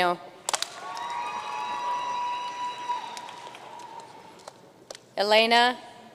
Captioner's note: audience cheering and applauding